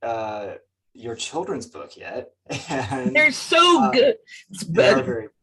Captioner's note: chuckles